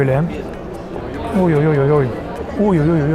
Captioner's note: hungry tribal noises